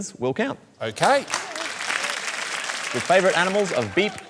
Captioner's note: applause